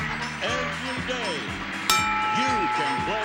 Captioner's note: ding